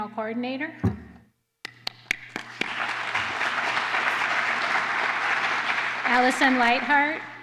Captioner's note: applause